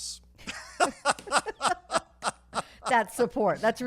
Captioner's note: laughing